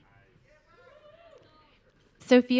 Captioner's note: audience cheering